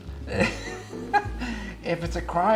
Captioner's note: laughs